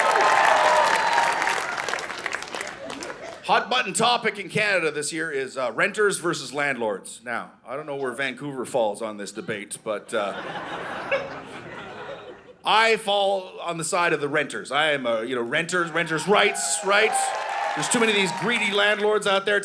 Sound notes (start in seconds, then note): 0.0 audience cheering; 10.1 audience laughing; 15.8 audience cheering